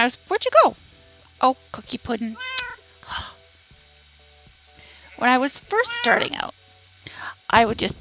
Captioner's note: exasperated sigh